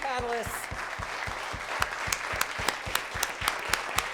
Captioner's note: applause